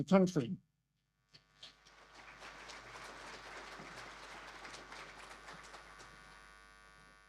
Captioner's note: audience applause